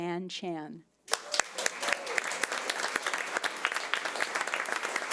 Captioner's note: audience applause